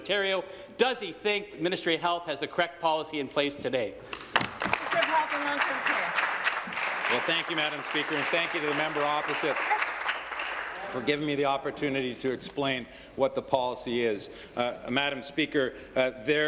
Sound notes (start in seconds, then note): 7.8 applause